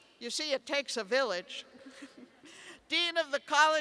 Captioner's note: laughter